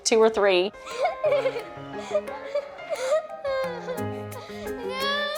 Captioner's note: children laugh